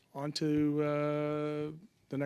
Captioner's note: speaking French